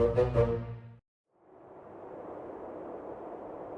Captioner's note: wind howling